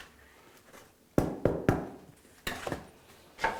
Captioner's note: knock